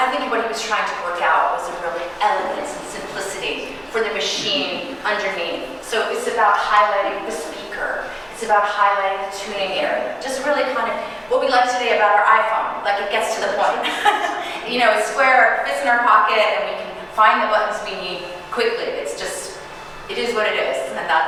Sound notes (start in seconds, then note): 13.8 chuckling